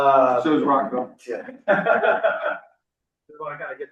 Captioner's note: laughter